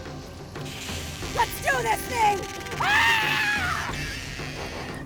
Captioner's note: screams